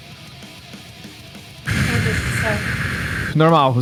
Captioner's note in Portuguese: expira